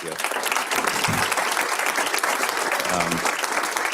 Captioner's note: audience applauds